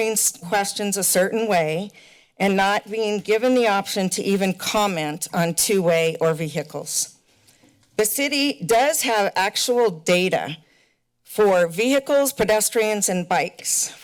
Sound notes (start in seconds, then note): none